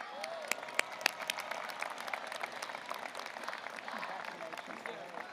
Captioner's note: audience applauding